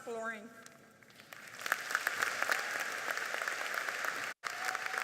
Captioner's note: audience applauding